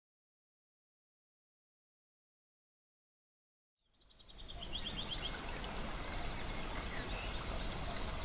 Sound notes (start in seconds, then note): 4.0 birds chirping